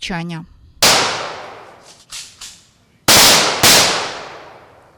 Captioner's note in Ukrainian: Постріли